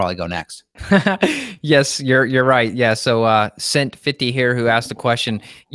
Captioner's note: laughs